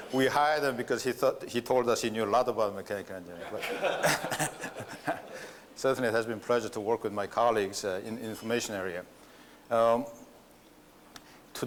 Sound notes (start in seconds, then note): 3.4 laughter